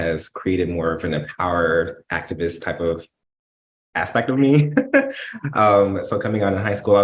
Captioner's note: laughs